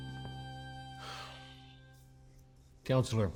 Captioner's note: sighs